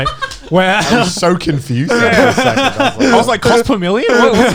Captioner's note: laughs